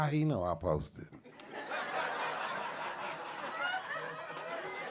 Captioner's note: audience laughing